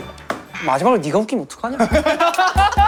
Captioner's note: hmph